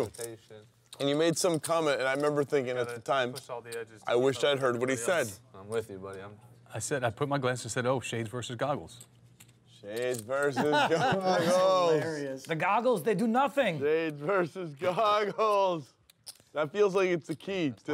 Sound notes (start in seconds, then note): 10.5 laughs